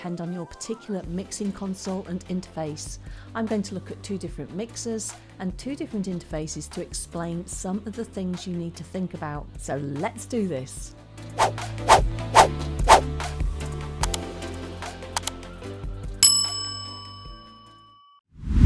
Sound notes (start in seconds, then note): 11.4 air whooshing; 16.2 bell dinging